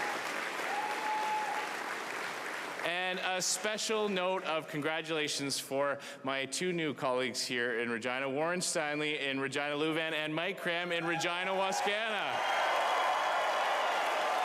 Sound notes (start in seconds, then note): 3.5 applause